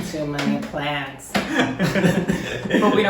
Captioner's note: laughing